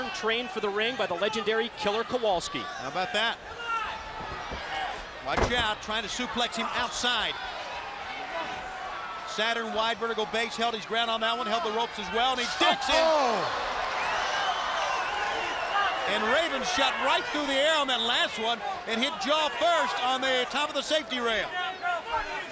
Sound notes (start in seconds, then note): 14.1 crowd cheering; 21.2 crowd chatter